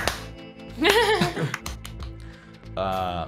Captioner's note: laughs